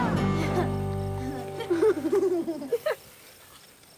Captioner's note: boys laughing